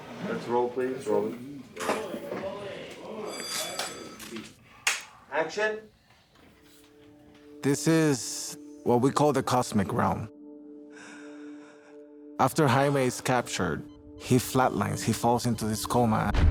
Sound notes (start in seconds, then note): 3.1 bell rings